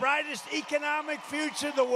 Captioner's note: applaus